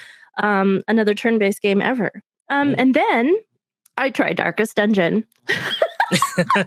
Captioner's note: laughs